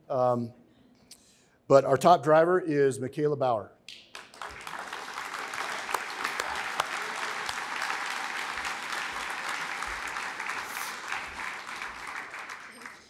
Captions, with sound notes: but our top driver is McKayla Bauer. (applause)